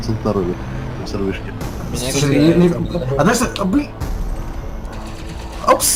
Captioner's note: cacophony of panic